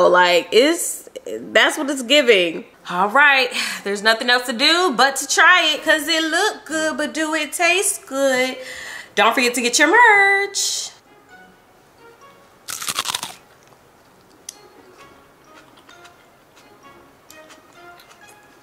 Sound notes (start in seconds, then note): 12.6 bite crunches; 15.1 light classical music